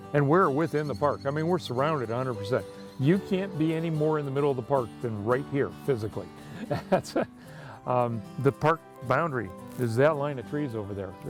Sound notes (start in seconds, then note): 6.5 laughs